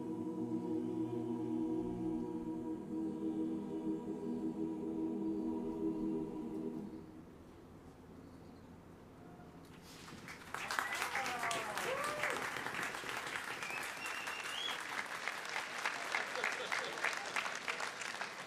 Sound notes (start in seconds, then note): 10.3 audience cheering